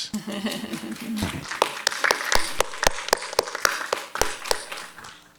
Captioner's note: audience applauds